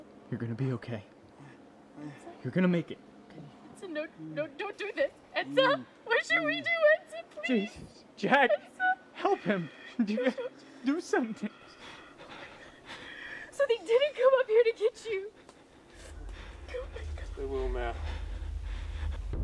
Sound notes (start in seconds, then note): 3.8 cries; 9.9 cries